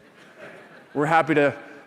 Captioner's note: laughter